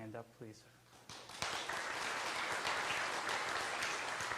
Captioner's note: clapping